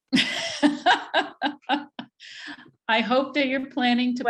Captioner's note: laughs